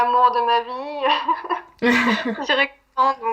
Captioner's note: laughs